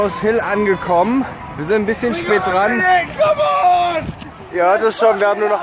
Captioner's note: man running past us is shouting